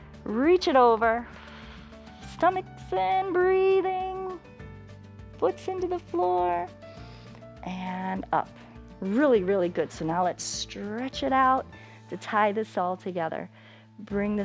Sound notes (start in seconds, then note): 6.8 inhales